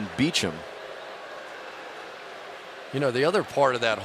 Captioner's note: booing